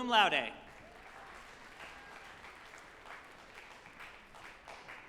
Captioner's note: group applauding